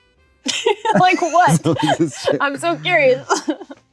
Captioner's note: laughs